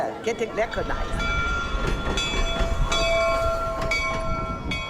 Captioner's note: bell clanging